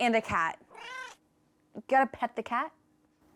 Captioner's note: cat meows